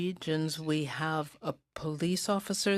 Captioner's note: speaking in french